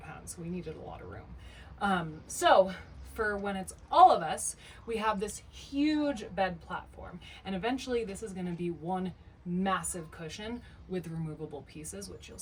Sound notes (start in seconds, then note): none